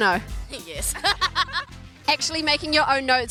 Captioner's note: laughs loudly